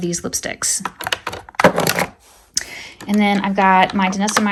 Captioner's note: items thudding